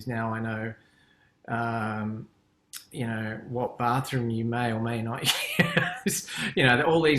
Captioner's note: laughs